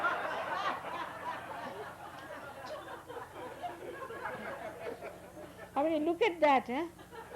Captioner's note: laughter